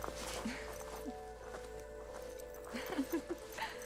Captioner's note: girls giggling